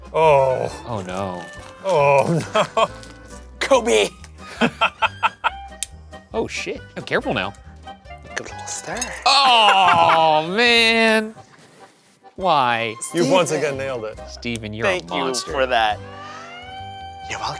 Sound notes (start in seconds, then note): 1.9 laughing; 4.4 laughing; 5.7 torch clicking